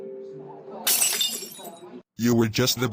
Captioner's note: glass shatter